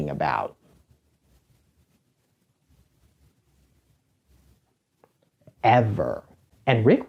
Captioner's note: silence